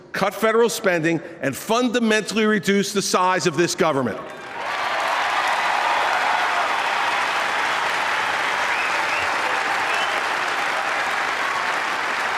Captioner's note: applause